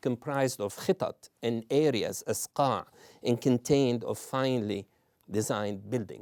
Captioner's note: non-english